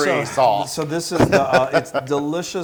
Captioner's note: laugh